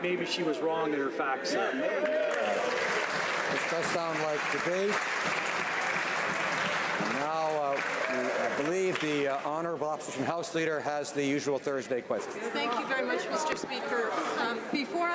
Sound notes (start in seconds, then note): 5.2 some Applause